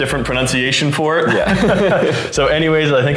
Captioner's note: both laughing